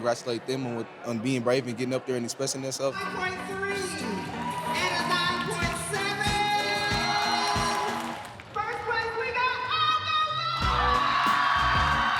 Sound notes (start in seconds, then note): 7.8 crowd cheers